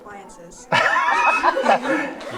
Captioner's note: all laugh